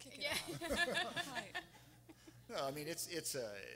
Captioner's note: everyone laughing